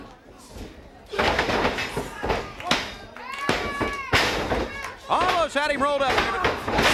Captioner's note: crowd chatter